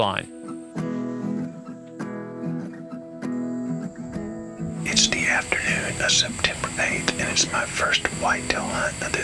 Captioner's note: whispering